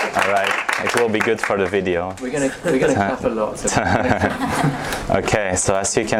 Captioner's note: laughing